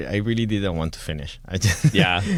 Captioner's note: laughter